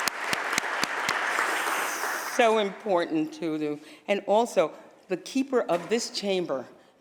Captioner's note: applause